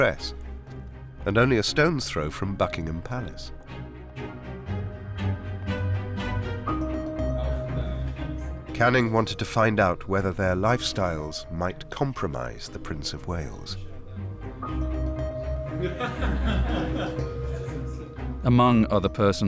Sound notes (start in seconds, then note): 15.8 laughing